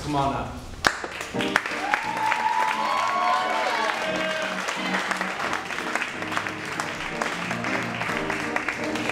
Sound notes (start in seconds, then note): 1.6 cheering and applauding; 2.7 upbeat piano music